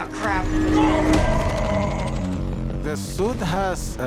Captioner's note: roars